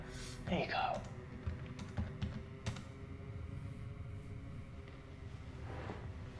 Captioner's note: keyboard clicking